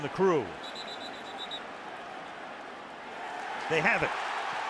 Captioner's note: whistle; cheering